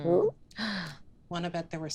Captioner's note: gasps